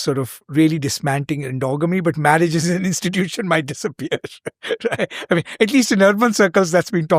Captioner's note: laughs